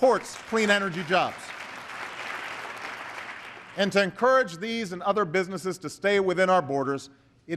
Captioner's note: applause